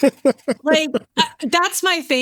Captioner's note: laughing